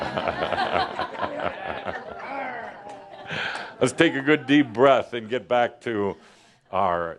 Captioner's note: laughter